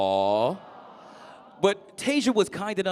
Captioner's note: crowd